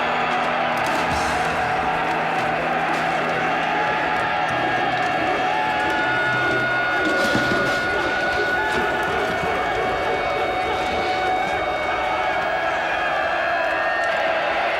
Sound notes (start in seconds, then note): 8.4 audience yells frantically